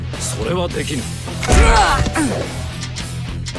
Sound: MedalOfHonorRisingSunPlayerDeath.wav

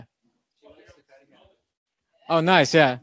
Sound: audience chattering

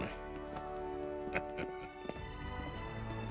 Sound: laughs

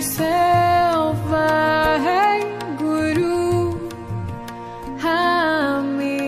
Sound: chanting in foreign language

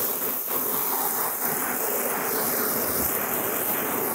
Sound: water spraying

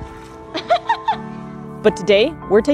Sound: background music; laughing

